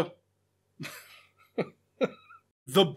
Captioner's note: stifling laughter